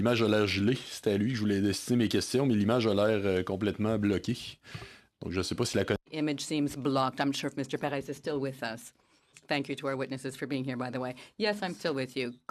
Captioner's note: speaking in French